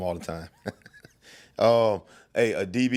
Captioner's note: laughing